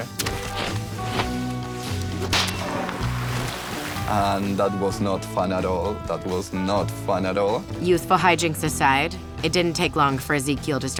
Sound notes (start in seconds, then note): 0.1 mop drags; 1.8 water splashes; 2.1 mop bucket creaks